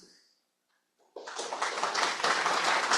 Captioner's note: applause